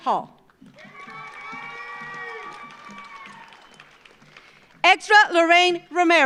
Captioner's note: audience applauds; audience cheers